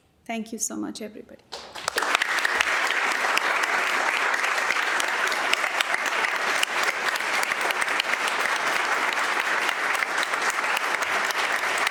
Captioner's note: applause